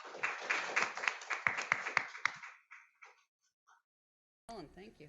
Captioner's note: applause